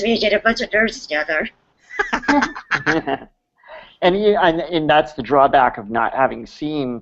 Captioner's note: laughs